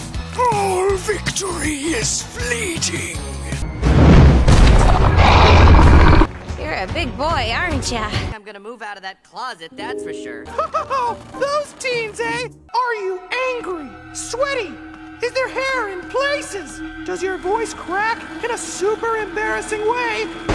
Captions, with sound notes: ALL VICTORY IS FLEETING! *growling* You're a big boy aren't ya! I'm gonna move outta that closet, that's for sure! Hahaha, those teens, eh? Are you angry? Sweaty? Is there hair in places? Does your voice crack, in a SUPER embarrassing way?